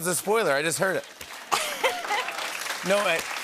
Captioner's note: applause